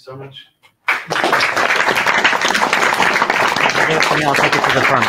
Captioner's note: audience appauding